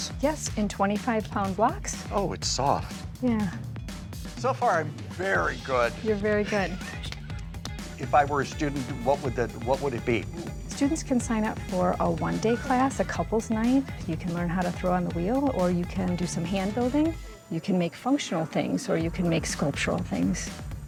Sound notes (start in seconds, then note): 6.4 John laughing